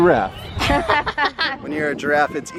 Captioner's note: children laughing